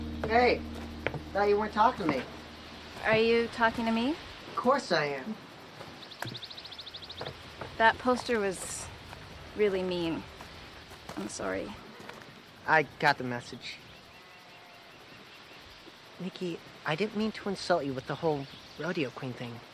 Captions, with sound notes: - Hey. Thought you weren't talking to me. - Are you talking to me? - Of course I am. - That poster was really mean. I'm sorry. - I got the message. (cow mooing) (insects chirping) Nikki, I didn't mean to insult you with the whole rodeo queen thing.